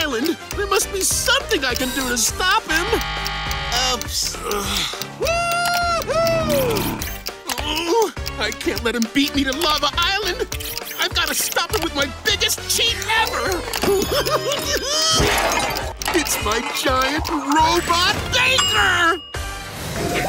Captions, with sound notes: There must be something I can do to stop him! Woo hoo! Oh, I can't let him beat me to Lava Island. I've got to stop him with my biggest cheat ever! [giggling] It's my giant robot baker!